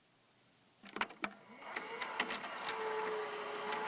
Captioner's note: click, vcr whirring